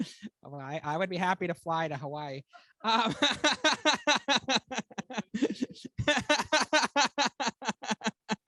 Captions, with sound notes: I would be happy to fly to Hawaii. (laughs)